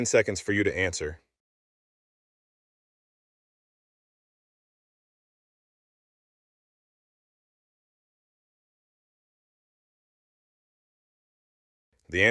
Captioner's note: no audio